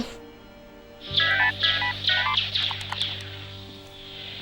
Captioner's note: game beeping